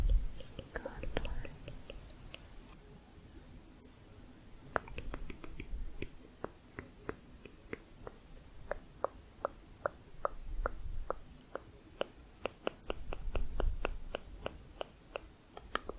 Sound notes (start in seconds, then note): 4.3 tongue clicking